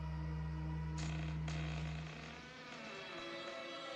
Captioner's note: creaking